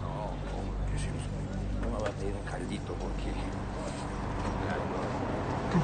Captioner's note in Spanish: Susurra